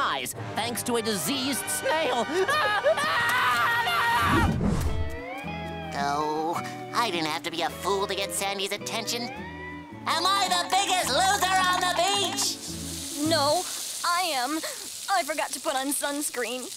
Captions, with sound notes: thanks to a diseased snail. [screaming] Oh. I didn't have to be a fool to get Sandy's attention. Am I the biggest loser on the beach?! No, I am. I forgot to put on sunscreen.